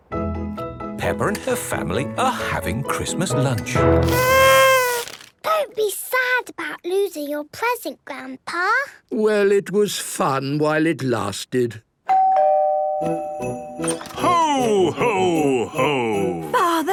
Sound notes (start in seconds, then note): 4.0 horn blowing; 12.1 doorbell ringing